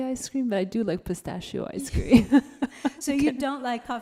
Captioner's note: laughs